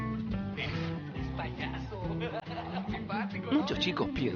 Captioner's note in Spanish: hombre hablando por TV